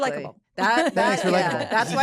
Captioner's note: laughter